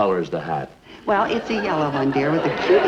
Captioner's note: audience laughs